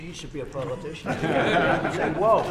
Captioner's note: laughter